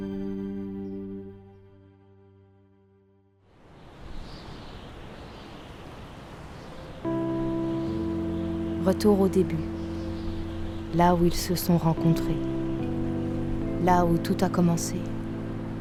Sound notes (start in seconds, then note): 3.7 le vent souffle